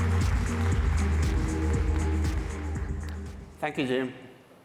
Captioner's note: applause